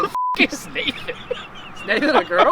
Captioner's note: beep